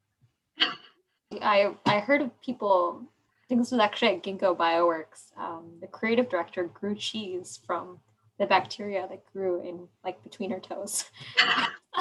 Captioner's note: laughing